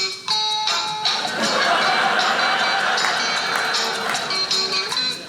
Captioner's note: audience laughing